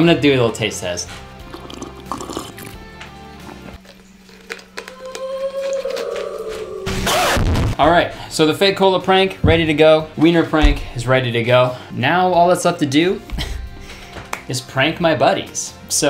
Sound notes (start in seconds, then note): 0.0 inspirational music; 1.2 slurping; 4.8 child crying; 5.2 record scratching